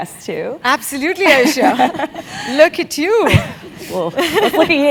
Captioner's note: laugh